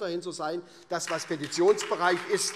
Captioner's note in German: Beifall SPD